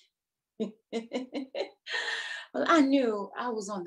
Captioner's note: chuckles